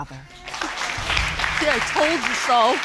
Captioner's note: audience applauding